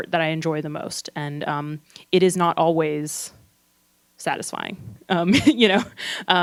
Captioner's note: laughs